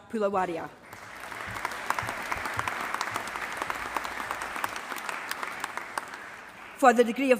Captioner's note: applause